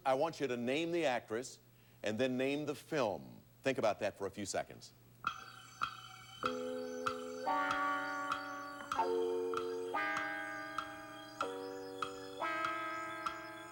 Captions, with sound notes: First, I want you to name the actress, and then name the film. Think about that for a few seconds. [clock ticking]